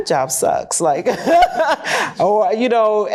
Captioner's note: laughter